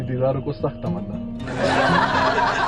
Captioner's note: laughter